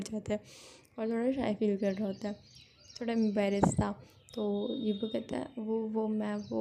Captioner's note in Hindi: नाक से की जाने वाली आवाज़